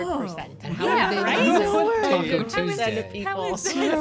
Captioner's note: laughter